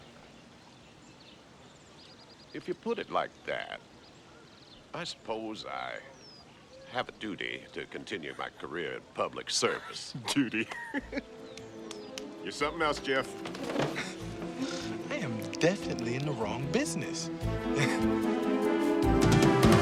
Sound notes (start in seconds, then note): 12.5 chuckles